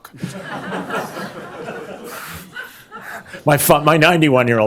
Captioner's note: laughter